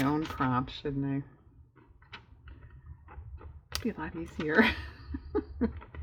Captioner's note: laughs